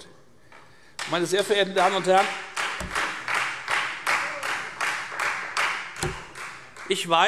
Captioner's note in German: Beifall Freie Demokraten